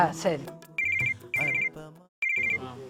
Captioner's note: mobile Phone Ringing